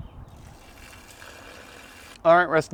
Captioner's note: sizzling